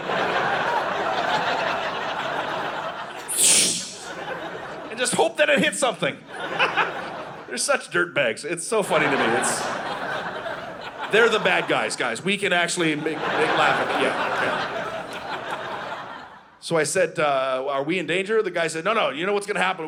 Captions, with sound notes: (Audience laughing) (Rocket sound) (Audience laughing) And just hope that it hits something. (Audience laughing) They're such dirtbags. It's so funny to me. (Audience laughing) They're the bad guys. Guys, we can actually laugh at that. Yeah. Okay. (Audience laughing) So I said, “Are we in danger of the guy?” They said, “No, no, you know what's going to happen?